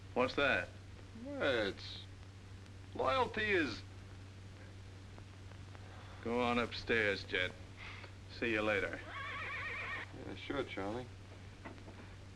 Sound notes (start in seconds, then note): 9.0 horse neighs outside